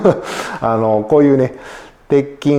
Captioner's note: laughs